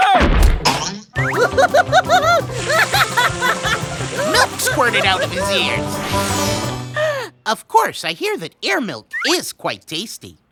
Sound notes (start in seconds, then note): 1.3 laughing; 6.9 gasps